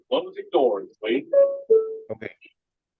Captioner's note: beeping